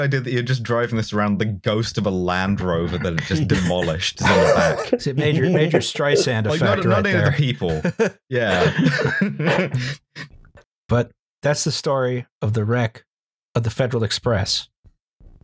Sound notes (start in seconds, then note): 5.1 laughs; 8.6 chuckles; 9.7 laughs